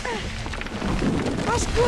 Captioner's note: rocks rumbling